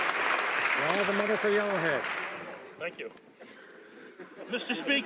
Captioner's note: some Applause